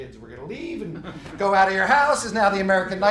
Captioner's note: laughing